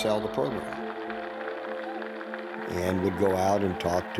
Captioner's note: crowd cheering